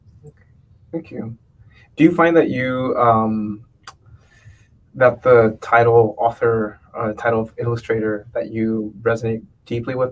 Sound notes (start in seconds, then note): none